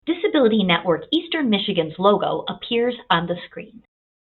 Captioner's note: voiceover